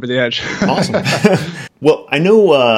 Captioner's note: laughing